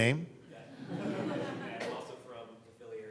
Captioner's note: audience laughing